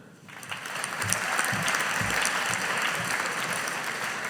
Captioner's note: audience applauding